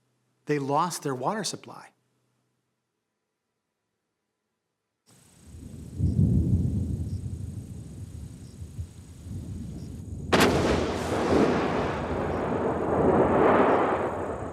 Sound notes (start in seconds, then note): 5.4 thunder rumbling; 9.2 thunder claps